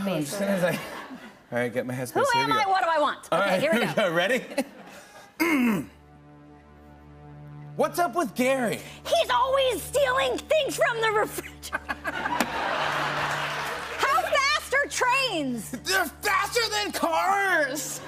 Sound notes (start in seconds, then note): 5.3 clears throat; 11.6 laughter